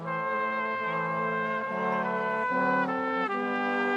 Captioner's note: none